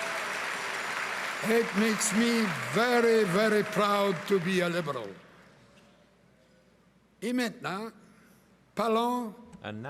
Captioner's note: cheering and applause